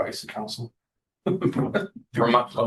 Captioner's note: laughter